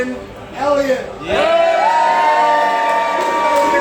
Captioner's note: cheering